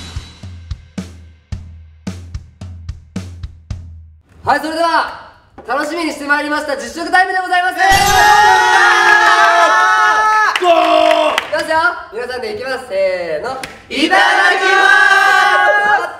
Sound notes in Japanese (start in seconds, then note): 7.9 歓喜